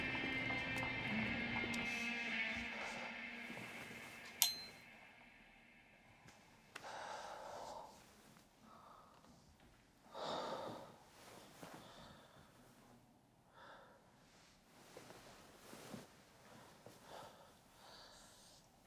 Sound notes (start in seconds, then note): 7.2 person sighing